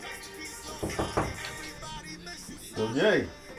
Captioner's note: knocking